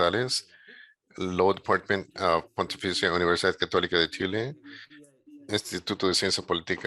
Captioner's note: speaking in a foreign language